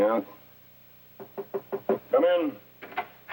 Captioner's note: knock knock knock